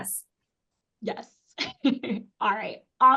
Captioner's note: laughs